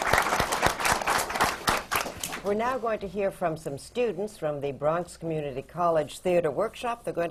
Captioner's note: applause